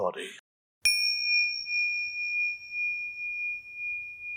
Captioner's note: bell chimes